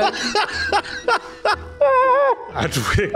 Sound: laughs

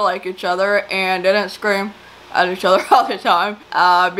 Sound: laughs

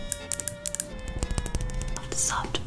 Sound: fingernails tapping

